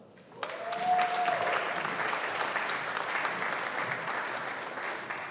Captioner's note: audience applauding